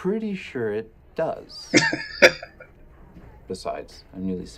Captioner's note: laughing